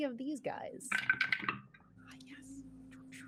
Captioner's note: dice roll